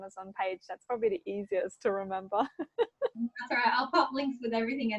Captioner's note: laughs